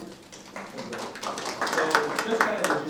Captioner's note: audience applauding